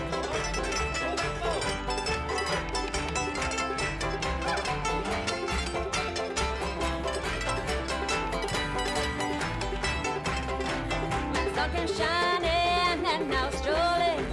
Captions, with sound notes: keep us able to do what we do. (twangy music) (cheering) Here we go now!